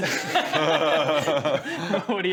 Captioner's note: laughs